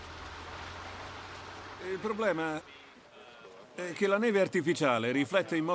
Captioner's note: Revenant set chatter